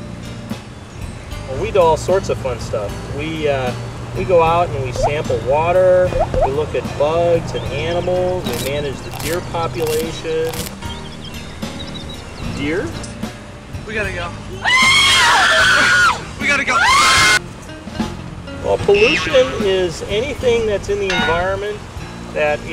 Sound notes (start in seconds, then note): 14.6 screaming